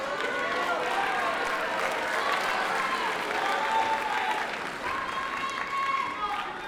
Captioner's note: audience boos and applauds